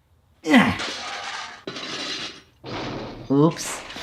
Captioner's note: can rattling